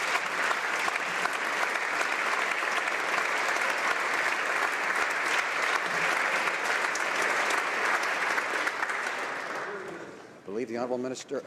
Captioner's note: applause